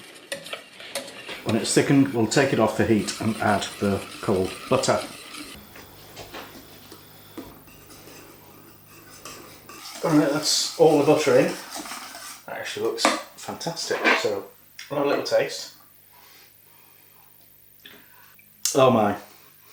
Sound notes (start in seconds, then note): 17.2 slurp